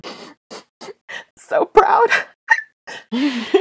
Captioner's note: sniffles